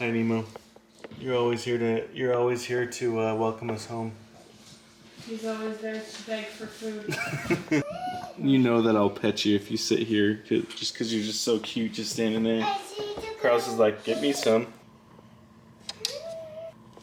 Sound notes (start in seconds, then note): 7.1 laughs; 13.4 chatters